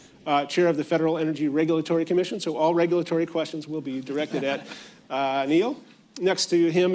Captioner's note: laughter